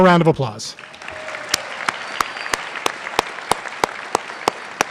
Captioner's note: applause